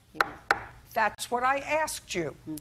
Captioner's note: taps desk